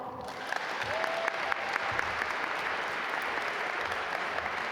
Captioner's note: audience applaud